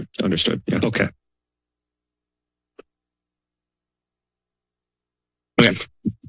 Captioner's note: silence